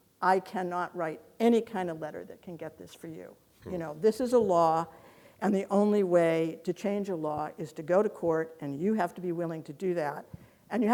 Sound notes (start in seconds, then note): none